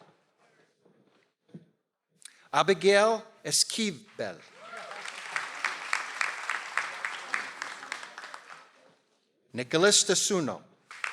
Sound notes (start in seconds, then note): 4.3 audience applauds